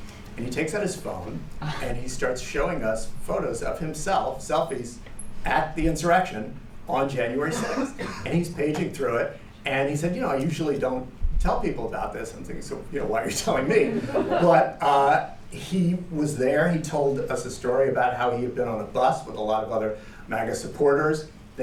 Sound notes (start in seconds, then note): 13.6 laughter